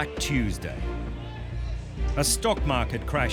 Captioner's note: shouting